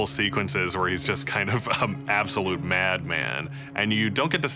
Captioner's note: snickers